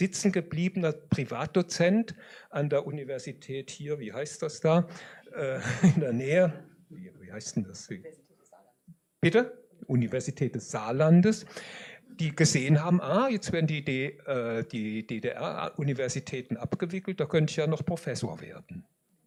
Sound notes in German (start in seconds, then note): 5.5 gelächter